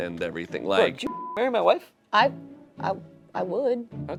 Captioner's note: beep